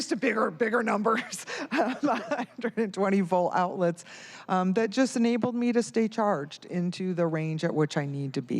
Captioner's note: laughter